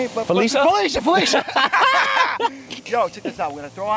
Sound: both laughing

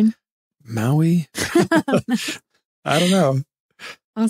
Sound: laughing

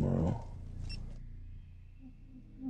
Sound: camera beeps

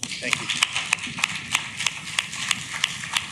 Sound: clapping

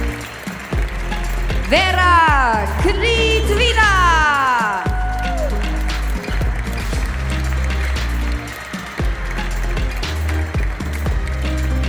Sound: applause; applause

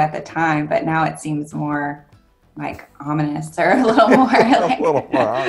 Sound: laughs

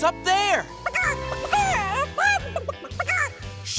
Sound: clucking

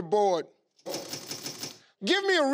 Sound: clinking

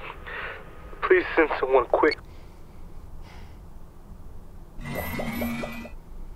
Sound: beeping off; electric whooshing

